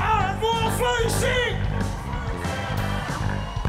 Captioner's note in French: cris d'enthousiasme